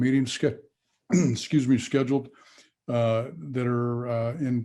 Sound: clears throat

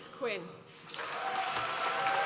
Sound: applause

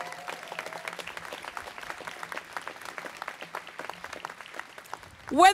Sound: students clapping

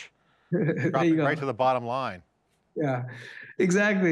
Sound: laughing

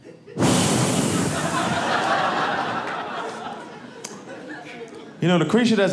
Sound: audience laughing

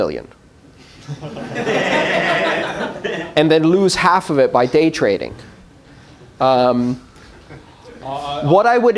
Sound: laughter

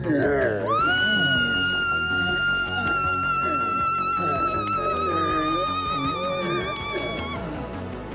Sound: scream

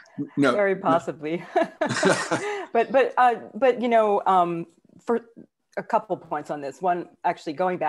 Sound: chuckles

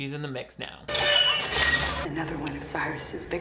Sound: cage squealing

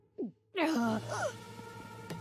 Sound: groaning

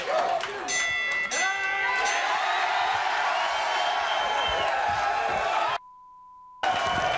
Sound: bell dinging; audience cheering; beep

